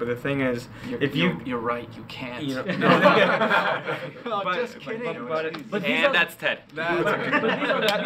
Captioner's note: laughing